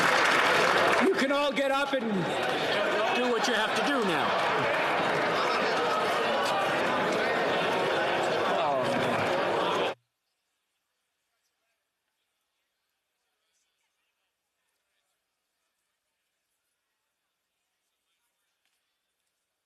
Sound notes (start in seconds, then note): 4.3 applause